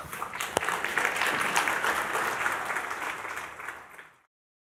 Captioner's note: Applaus